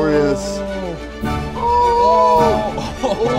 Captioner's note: gasping